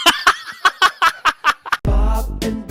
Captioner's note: laughing